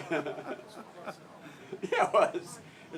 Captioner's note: laugh